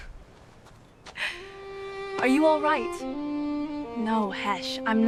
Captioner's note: scoffs